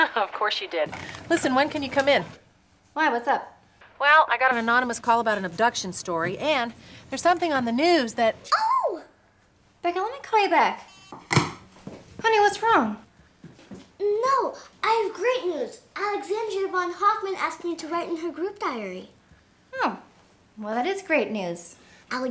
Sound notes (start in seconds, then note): 10.8 phone beeps; 11.1 phone thuds